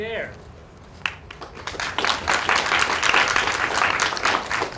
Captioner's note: applause